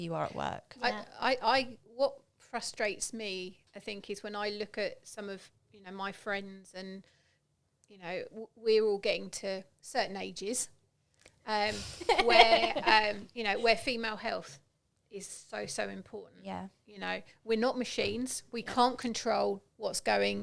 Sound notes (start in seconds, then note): 11.7 laughing